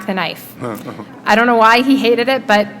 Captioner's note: chuckle